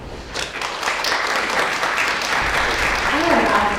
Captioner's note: audience applause